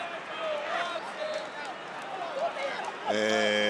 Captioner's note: audience chanting